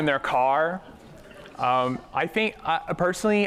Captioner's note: laughter